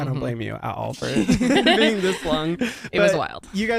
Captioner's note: everyone laughs